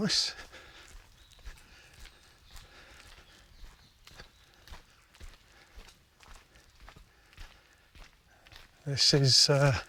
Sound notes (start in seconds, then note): 2.0 footsteps